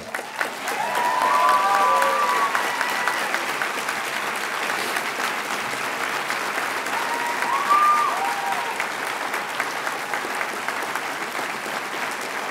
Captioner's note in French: Applaudissements et acclamations